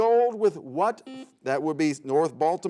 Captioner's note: buzzer sounds